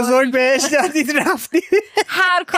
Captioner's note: laughs